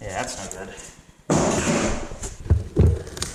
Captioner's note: wood lands off screen; more construction noises